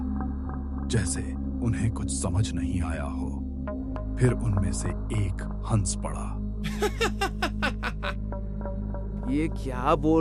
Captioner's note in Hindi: हंसी